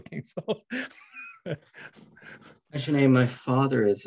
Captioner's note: chuckles